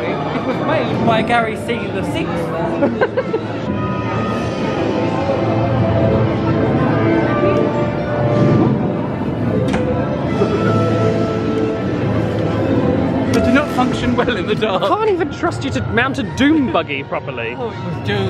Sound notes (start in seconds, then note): 2.8 laughs; 6.0 mellow music